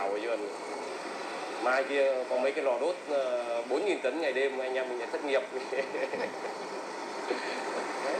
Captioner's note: laughing